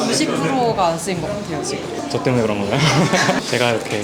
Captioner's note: laughs